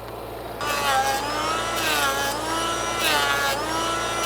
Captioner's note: planer running